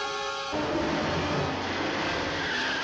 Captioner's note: intense music; engines roaring; wheels squealing